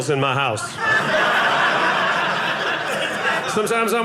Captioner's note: audience laughing